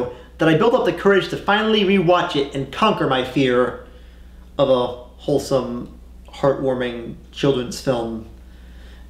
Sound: none

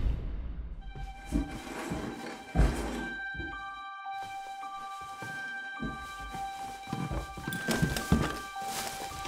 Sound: rustling can be heard from downstairs

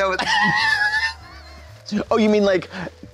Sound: Katya tee-hees

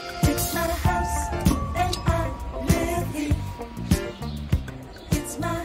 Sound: door bell rings

